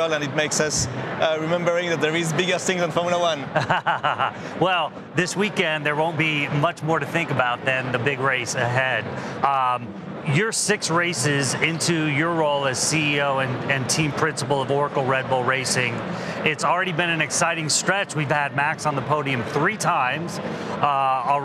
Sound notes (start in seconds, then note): 3.3 chuckles